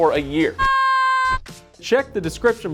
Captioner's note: screaming